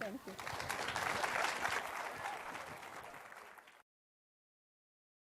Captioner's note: audience applause